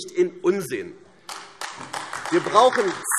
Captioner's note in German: Beifall AfD